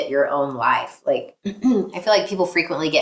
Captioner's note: clears throat